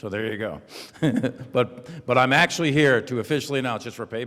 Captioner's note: laughs brightly; audience laughs quietly